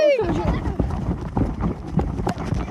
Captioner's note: running